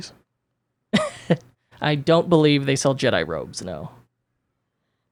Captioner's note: laughs